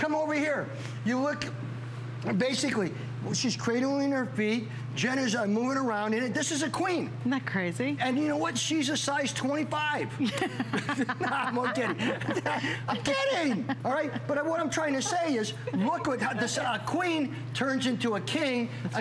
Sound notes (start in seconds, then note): 10.2 laughter